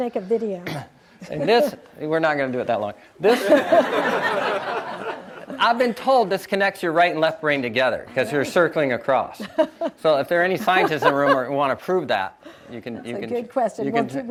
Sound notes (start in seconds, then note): 3.3 audience laughs